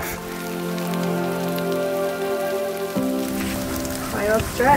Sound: peaceful music; rain falling

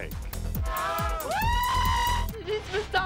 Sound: cheering

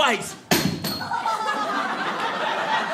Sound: audience laughing

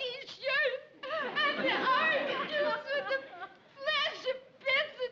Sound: sobbing indistinctly

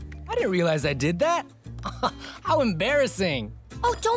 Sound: chuckles weakly

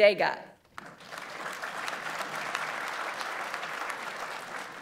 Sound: audience applauds

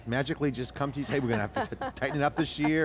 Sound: laughing

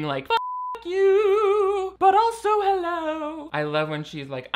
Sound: beep

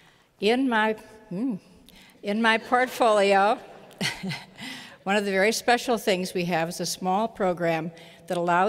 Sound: laughter

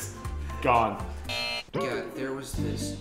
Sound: buzzer

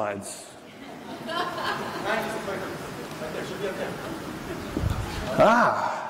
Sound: laughter

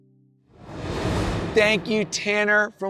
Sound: transition whooshes

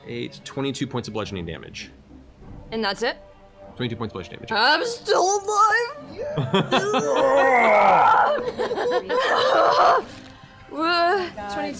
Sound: roars

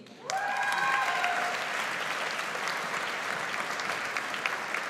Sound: audience applauds

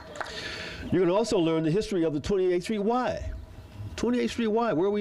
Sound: applause

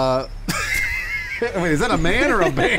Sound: laughing

